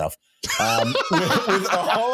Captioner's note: laughing